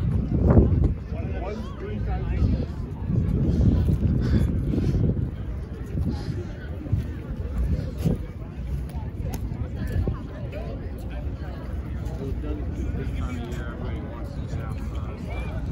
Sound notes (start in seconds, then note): none